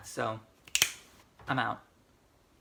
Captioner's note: snaps fingers